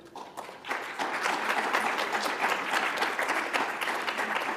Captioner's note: audience applauds